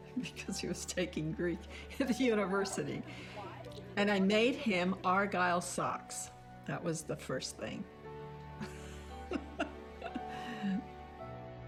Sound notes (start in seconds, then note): 1.7 laughing; 8.6 laughs; 11.4 slow piano music